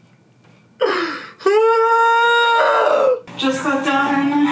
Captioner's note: groans